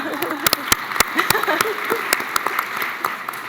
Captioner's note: laughs; applause